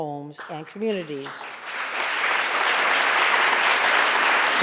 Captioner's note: audience applauding